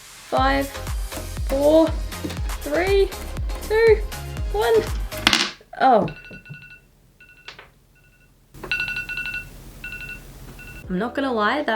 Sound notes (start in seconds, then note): 5.9 iPhone alarm